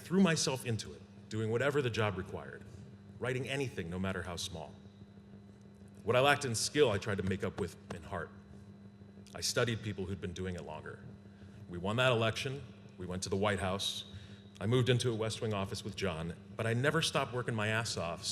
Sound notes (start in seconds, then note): none